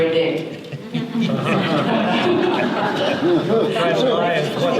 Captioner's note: audience laughter